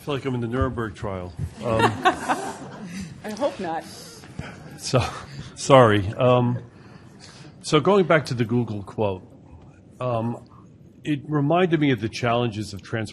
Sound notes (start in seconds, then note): 1.6 laughter